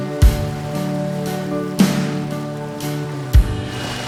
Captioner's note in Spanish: olas del mar en la orilla